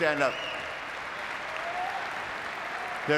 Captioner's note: audience clapping